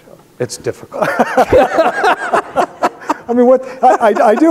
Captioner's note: both laughing